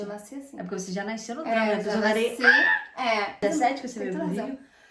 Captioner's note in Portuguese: grita